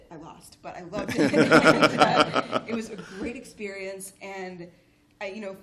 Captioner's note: laughter